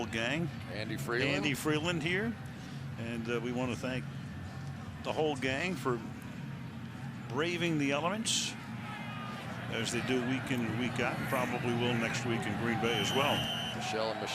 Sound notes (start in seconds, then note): 11.0 cheering; 12.3 pa announcement